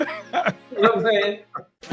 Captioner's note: they laugh